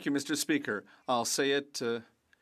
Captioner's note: speaking French